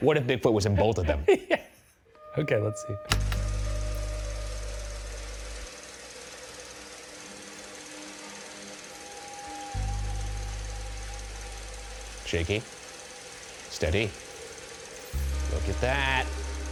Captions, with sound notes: - What if Bigfoot was in both of them? - (laughing) Yeah. Okay, let's see. (projector whirring) (pensive music) - Shaky. Steady. Look at that.